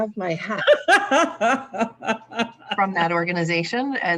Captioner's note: laughs